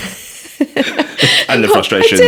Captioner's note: laughing